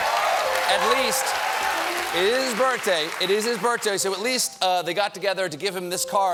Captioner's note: cheers and applause